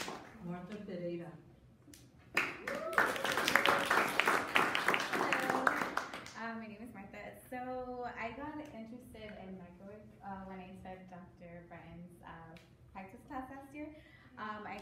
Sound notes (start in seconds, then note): 2.3 audience applauding